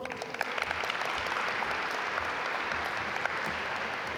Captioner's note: audience applaud